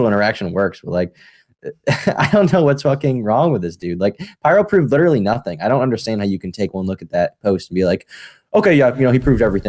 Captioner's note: laughs